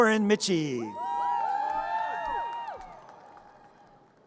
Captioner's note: audience cheers